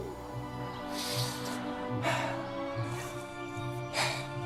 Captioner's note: breathes deeply and sniggers